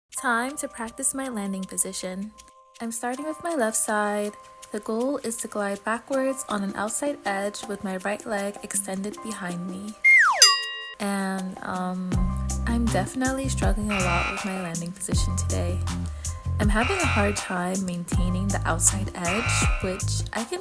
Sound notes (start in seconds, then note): 0.2 chill Music; 10.0 comedic whistle